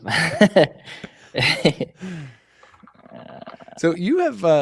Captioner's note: laughter